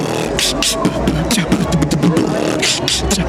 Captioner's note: beatboxing